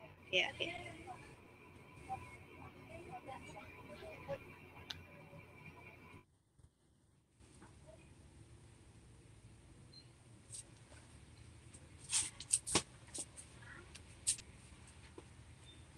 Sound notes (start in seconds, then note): 3.8 foreign